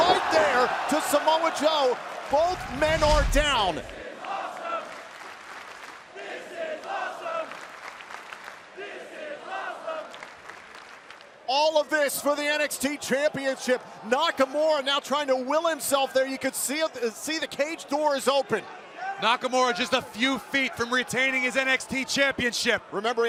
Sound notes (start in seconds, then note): 3.9 fans chanting